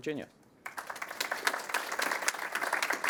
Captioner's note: applause